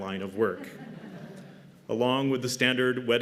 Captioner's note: laughter